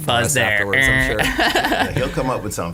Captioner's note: laughing; mimics buzzer